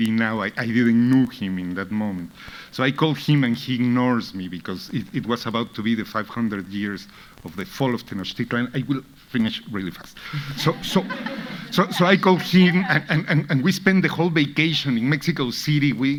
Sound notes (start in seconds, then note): 10.3 audience laughing